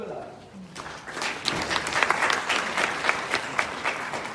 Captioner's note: audience applauding